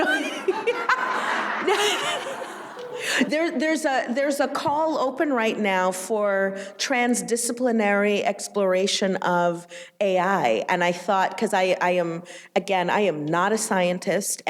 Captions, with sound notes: - No, no, no. (audience laughing) There's a call open right now for transdisciplinary exploration of AI. And I thought, 'cause I am, again, I am not a scientist,